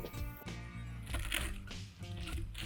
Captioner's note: crispy noise